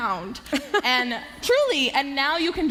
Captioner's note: laughter